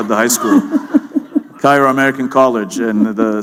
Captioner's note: laughter